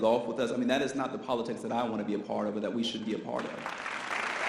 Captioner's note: audience applause